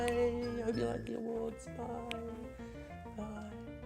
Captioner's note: quietly